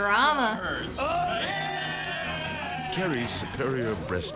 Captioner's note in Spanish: gente aplaudiendo